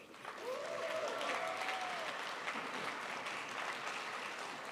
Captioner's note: crowd applauds